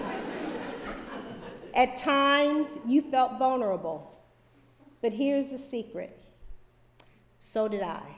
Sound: laughter

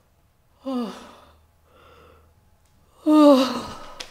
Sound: groans

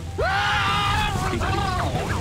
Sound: screaming

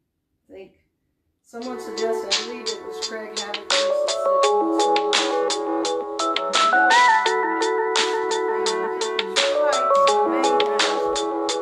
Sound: cell phone ring tone

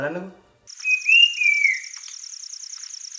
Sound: Brown-capped Babbler calling

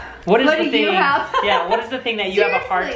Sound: laughs

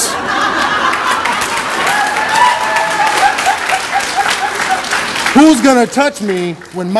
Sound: audience laughter and applause

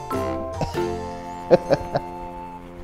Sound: laughs

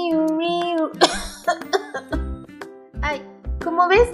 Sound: cough cough cough

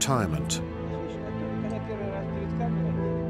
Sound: indistinct conversation in German

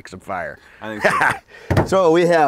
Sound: laughs

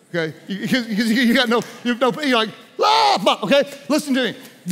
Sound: yells

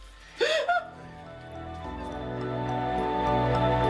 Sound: Renee cries

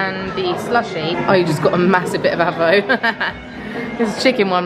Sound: laughs

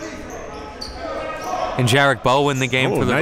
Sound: players bustling

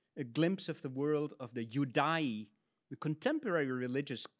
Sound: speaks in Latin

